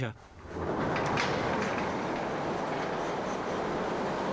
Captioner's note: door rollers whirring